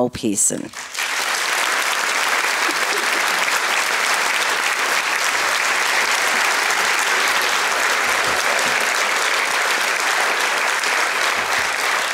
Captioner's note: applause